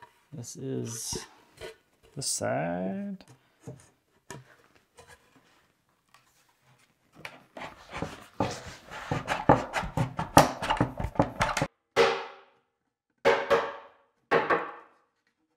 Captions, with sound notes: This is the side. (hammer banging)